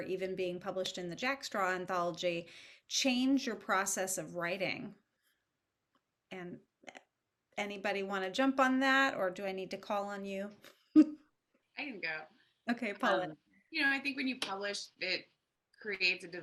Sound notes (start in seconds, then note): 10.9 chuckles